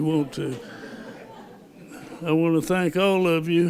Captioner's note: laughter